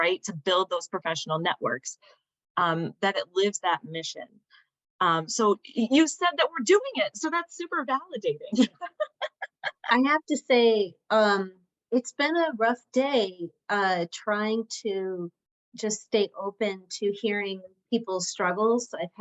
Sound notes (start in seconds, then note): 8.5 laughter